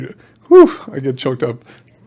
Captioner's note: exclamation